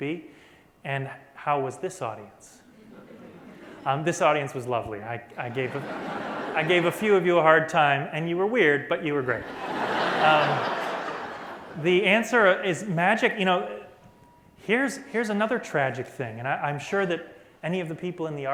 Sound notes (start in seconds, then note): 5.3 laughter; 11.6 laughter